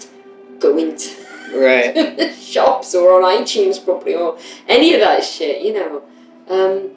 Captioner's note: laughter